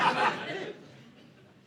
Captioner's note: audience laughing